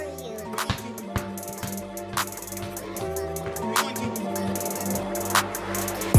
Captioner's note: soft music plays; basketball bounces